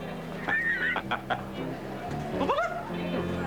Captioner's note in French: Rire